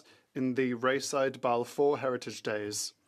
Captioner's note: speaking French